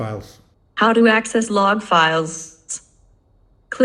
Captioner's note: AI voice